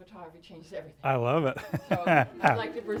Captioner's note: laughs